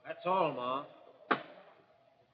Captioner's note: coin bag thud